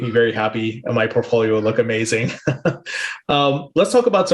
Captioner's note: laughs